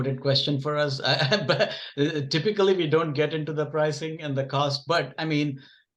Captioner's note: chuckles